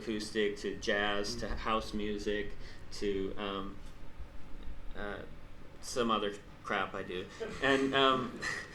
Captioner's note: laughs